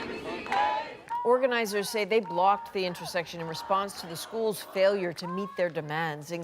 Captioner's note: chanting